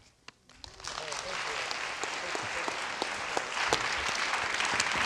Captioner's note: students applauding